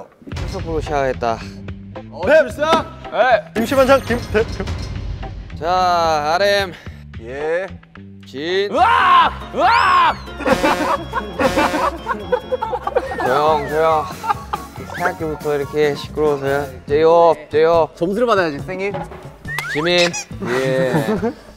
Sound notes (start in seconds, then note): 8.7 argh!; 12.7 sighing; 19.0 bang